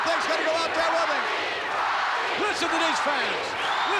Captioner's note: audience cheering